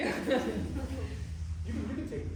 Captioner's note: laughter